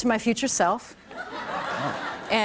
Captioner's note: laughter